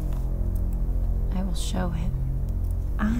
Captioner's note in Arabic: none